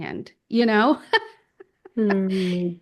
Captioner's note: laughs